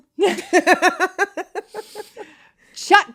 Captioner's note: both laughing